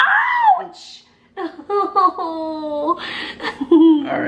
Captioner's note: laughs